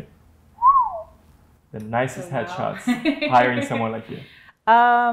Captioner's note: whistles